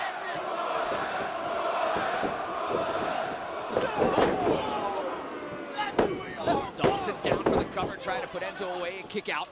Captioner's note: crowd chatter